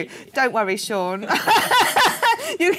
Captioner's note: laughing